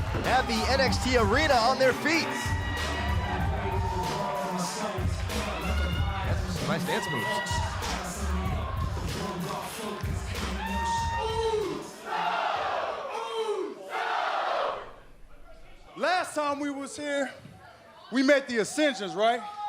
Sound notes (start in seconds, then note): 8.0 crowd cheering